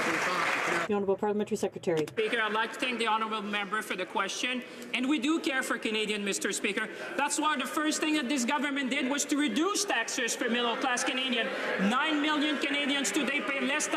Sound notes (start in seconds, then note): 4.3 some Applause